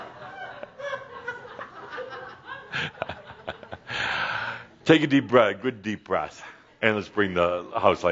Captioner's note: laughter